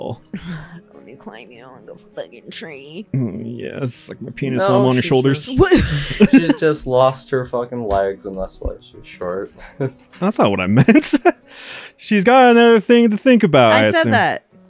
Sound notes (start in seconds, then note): 5.5 giggles